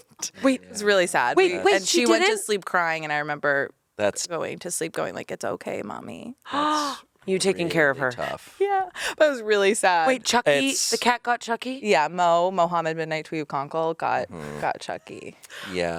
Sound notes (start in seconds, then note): 6.5 gasps